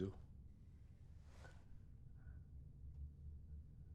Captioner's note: none